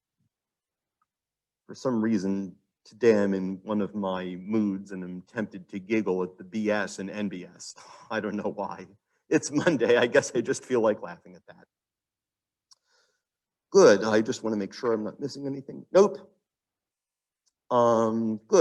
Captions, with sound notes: For some reason, and I'm in one of my moods and attempted to giggle at the BS and NBS, and I don't know why, it's Monday. (laughs) I guess I just feel like laughing at that. Good. I just wanna make sure I'm not missing anything. Nope.